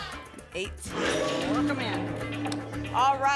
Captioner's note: lock sound